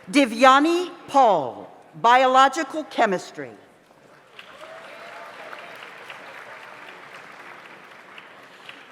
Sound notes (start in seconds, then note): 4.3 audience applauds